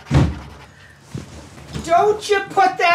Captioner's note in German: Tür knallt zu